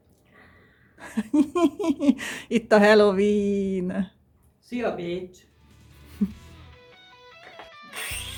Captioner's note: laughter